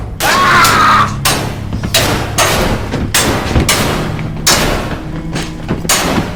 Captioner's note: metal clanking; Bannon screaming